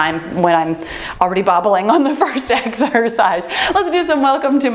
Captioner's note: laughs